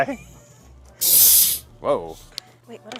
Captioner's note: satisfying hiss